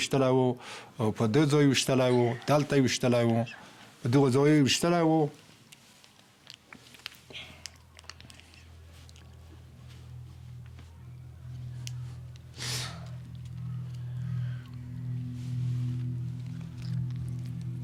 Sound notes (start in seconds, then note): 12.5 inhales sharply